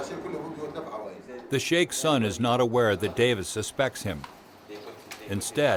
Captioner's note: voiceover